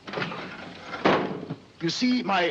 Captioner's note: lid bangs